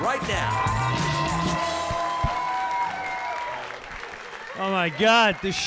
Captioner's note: audience cheering